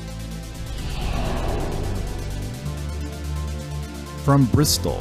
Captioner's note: air whooshing